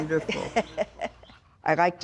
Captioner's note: laughing